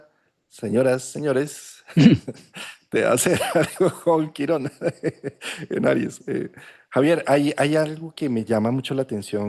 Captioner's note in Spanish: risas